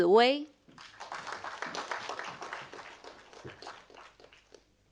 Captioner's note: audience applauding